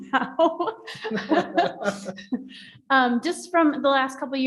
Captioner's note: laughing